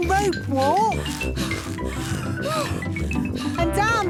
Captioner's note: puffing and panting